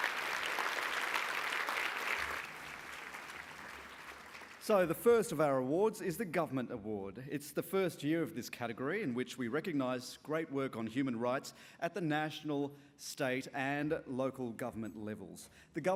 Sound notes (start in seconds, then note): 0.0 applause